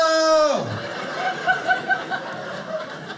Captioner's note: audience laughing